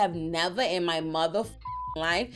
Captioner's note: beep